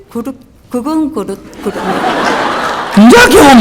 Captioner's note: audience Laughter